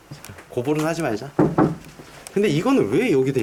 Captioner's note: knocking